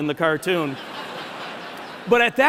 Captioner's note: laughter